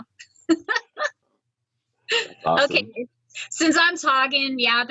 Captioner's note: laughs